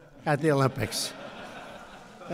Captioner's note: laughter